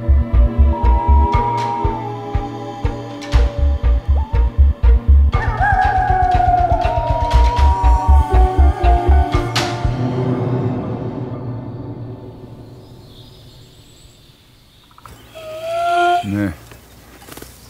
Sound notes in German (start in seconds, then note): 5.4 Heulen; 9.4 Spannungsvolle Musik; 11.6 Vogelgezwitscher